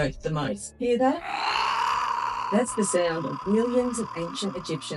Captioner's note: moaning sound